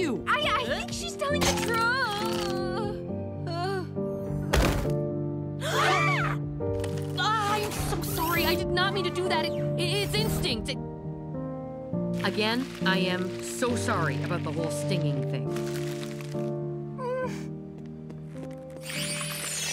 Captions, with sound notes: I– I think she's telling the tru– [groans and collapses] [group gasp and scream] Ahh, I am so sorry, I did not mean to do that. It– it's instinct! Again, I am so sorry about the whole stinging thing.